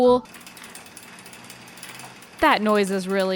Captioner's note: bat clattering